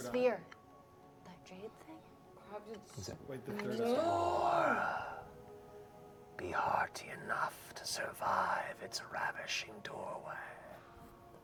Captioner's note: gasping